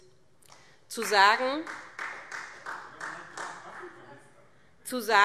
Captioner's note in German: Beifall Freie Demokraten